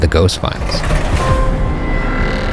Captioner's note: drawer closing